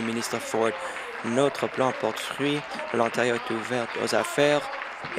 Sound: applause

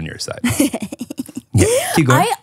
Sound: laughing

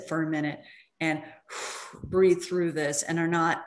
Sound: breathes deeply

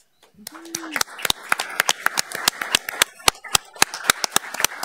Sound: all applauding

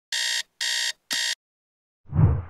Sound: alarm beeping

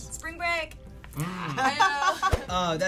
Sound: laughs

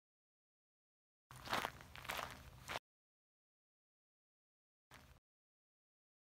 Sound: gravel crunching under foot

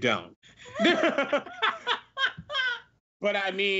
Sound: both laugh

